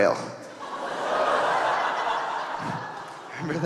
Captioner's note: audience laughing